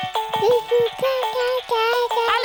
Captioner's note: mobile playing loud music; cooing